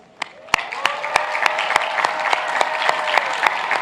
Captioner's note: applauding